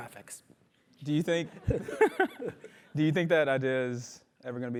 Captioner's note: laugh; laugh